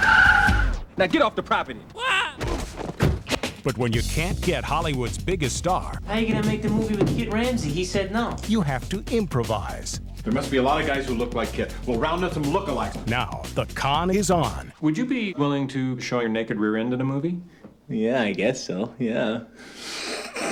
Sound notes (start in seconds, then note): 0.0 tires squealing; 1.9 man shrieking; 20.3 snorting